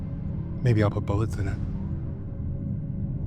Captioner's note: none